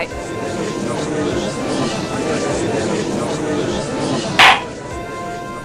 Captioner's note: gallery chattering; gavel slams!